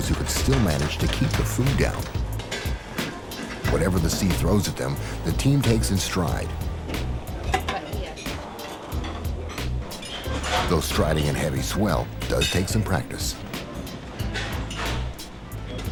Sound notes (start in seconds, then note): 7.3 dishes clinking